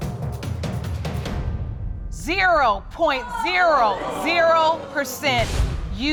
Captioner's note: audience groans